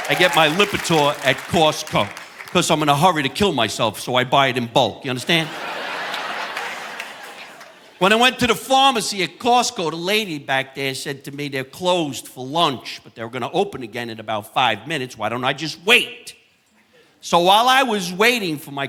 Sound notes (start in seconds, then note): 5.2 audience laughing